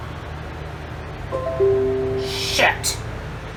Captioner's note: computer sound